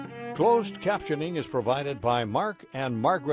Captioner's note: voiceover